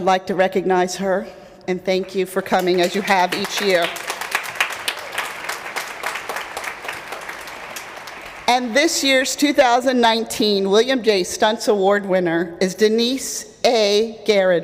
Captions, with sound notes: I'd like to recognize her, and thank you for coming as you have each year. [APPLAUSE] And this year's 2019 William J. Stuntz Award winner is Denise A. Ghartey.